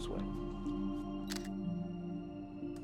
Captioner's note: camera shutter